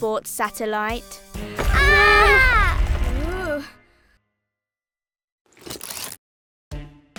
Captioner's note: heavy rumbling; everyone screams